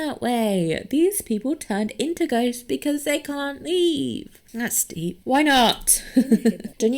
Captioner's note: laughs